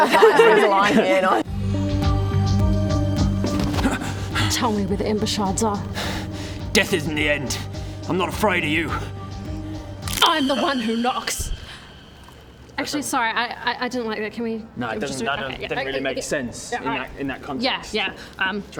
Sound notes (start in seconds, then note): 10.0 snap